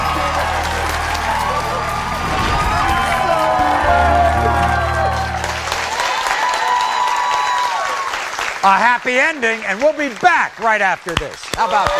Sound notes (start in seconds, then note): 5.6 audience applauding; 5.6 cheering